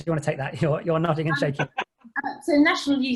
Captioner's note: laughing